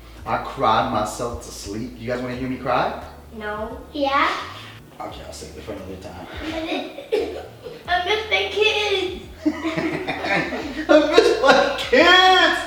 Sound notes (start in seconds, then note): 7.0 fake crying; 9.2 laughing